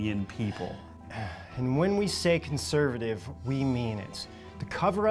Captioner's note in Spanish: suspira